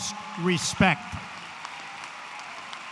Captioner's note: applause